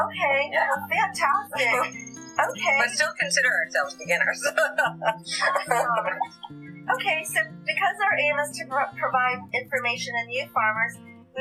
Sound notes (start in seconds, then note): 4.2 laughter